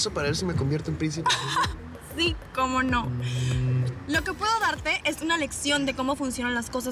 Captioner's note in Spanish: risas